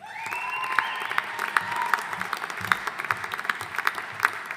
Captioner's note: audience applauding